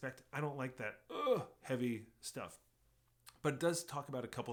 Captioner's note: groans